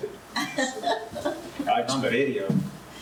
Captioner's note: laughs